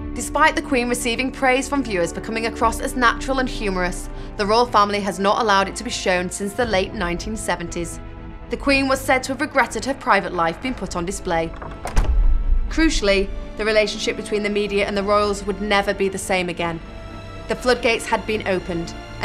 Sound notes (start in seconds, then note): 11.4 clicking